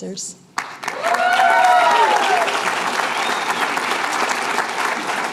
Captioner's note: cheers and applause